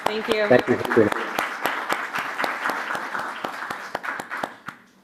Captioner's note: applause